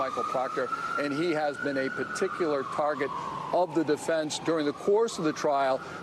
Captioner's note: sirens